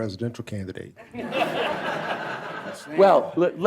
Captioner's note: laughter